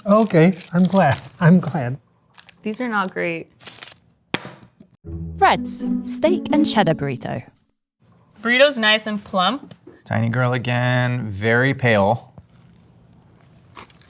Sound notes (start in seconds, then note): 3.8 burrito thumping; 3.8 wrapper ripping